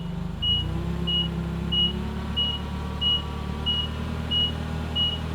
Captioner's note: forklift beeping